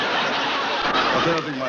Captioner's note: audience laughs